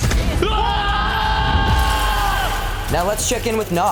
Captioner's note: loud cheering